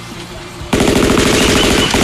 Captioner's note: gunfire; squawking